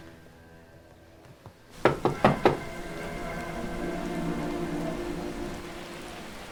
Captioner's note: persistent knocking